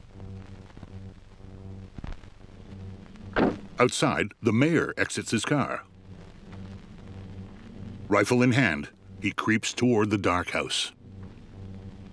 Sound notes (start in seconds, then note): 3.4 car door slams; 7.3 wind howling